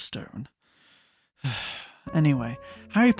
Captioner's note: sighs